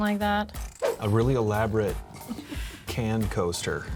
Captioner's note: wind whooshes